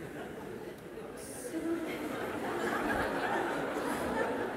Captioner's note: laughter